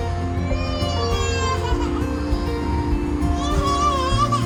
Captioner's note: my daughter crying